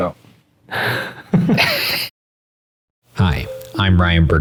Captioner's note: all laughing